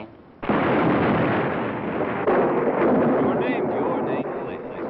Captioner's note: lightning and thunder crashing